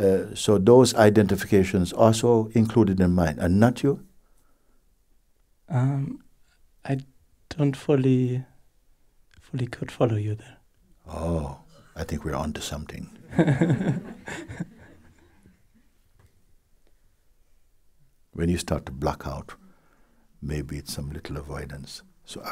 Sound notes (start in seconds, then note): 13.2 laughter